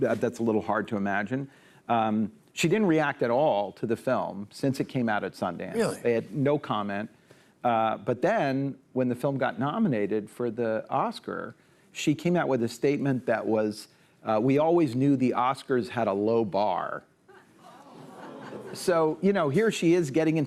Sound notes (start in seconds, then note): 17.2 audience exclaims